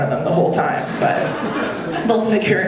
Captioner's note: audience laughing